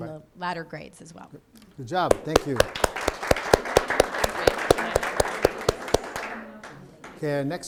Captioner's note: applause